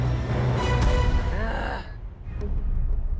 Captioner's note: groans